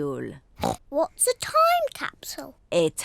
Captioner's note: oinks